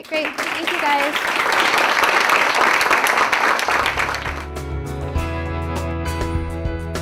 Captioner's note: applauds